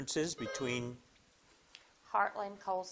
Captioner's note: buzzer dings